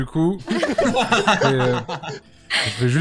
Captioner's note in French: rires